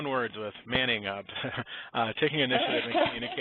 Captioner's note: chuckles